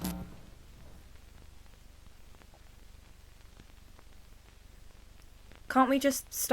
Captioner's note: Static